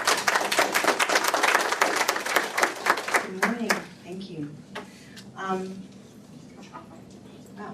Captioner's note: applause